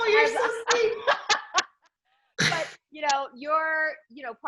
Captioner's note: laughs